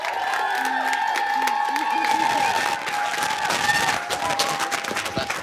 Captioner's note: cheering and applause